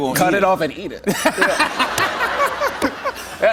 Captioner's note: laughter